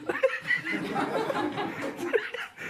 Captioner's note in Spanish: Risas